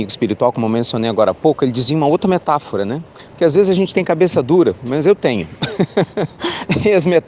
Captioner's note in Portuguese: risos